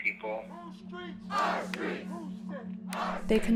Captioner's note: chanting